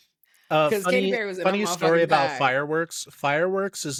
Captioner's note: laughing